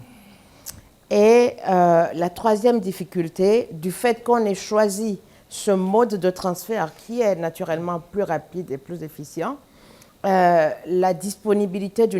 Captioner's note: speaking french